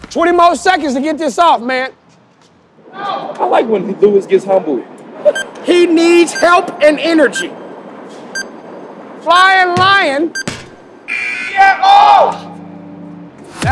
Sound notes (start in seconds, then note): 5.2 timer beeping; 11.1 buzzer beeps